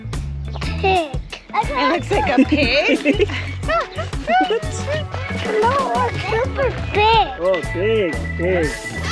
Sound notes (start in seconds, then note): 3.6 giggles